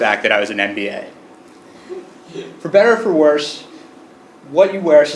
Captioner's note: laugh